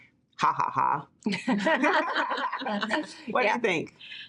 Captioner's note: deans laughing